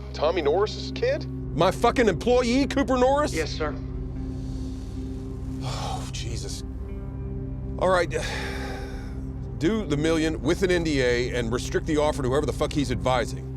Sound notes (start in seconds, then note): 3.2 on phone